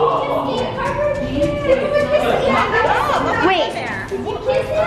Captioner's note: kids playing